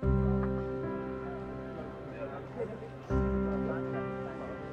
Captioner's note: crowd chattering